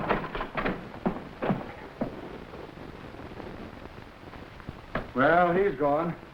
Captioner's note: door creaking; footsteps echoing